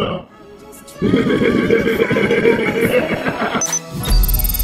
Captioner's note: creepy laughter